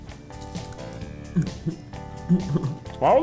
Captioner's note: giggling